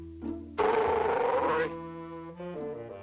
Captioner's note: growls